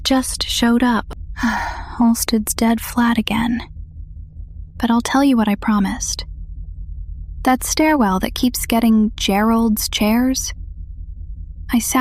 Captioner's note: sighs